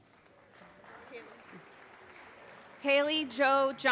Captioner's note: audience applause